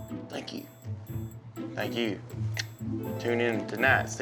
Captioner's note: clicks tongue